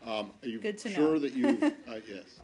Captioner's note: laughter